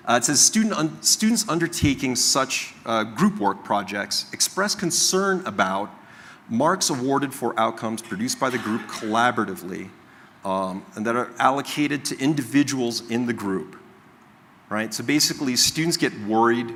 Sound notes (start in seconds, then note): 8.0 coughing